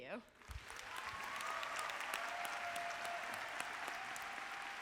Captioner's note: audience applauding